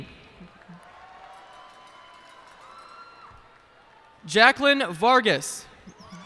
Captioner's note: cheers and applause